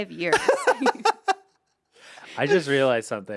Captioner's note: Anthony laughs